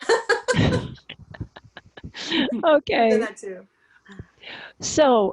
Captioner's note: laughs